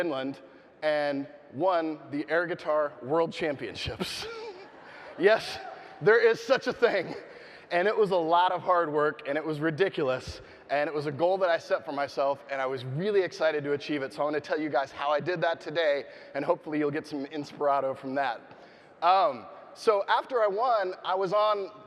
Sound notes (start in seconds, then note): 4.4 audience laughing